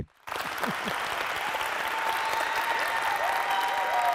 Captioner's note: applause